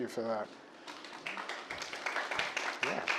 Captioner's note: audience claps